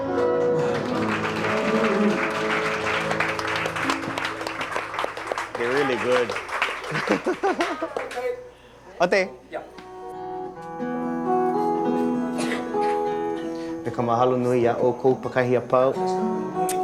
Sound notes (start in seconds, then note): 0.0 group applause; 8.9 speaking Hawaiian language; 11.4 guitar music; 14.0 speaking in Hawaiian; 16.5 guitar music